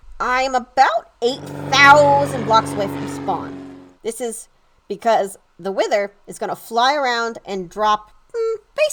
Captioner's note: airplane noise